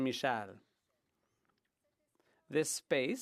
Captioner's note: speaking French